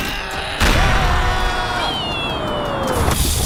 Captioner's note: screams